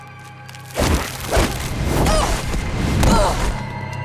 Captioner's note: groaning